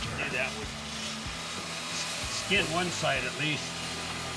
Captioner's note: sanding, polishing sounds